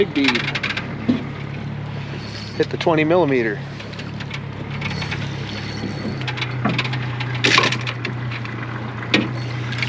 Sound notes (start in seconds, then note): 0.0 reel cranking; 2.0 fish splashing; 5.6 reel cranking; 7.2 boat engine idling; 9.1 reel cranking